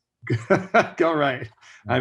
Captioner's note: laughs